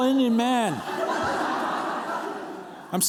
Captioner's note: laughter